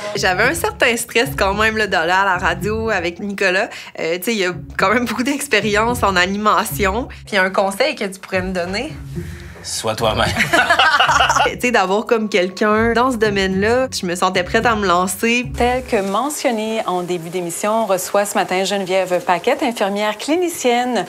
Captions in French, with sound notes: J'avais un certain stress quand même d'aller à la radio avec Nicolas. Tu sais, il a quand même beaucoup d'expérience en animation. Puis, un conseil que tu pourrais me donner? - Sois toi-même. (rires) - D'avoir quelqu'un dans ce domaine-là, je me sentais prête à me lancer. - Tel que mentionné en début d'émission, on reçoit ce matin Geneviève Paquette, infirmière clinicienne,